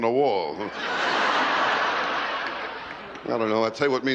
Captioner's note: laughter